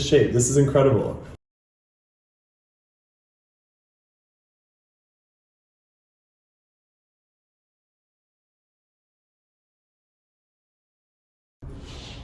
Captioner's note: silence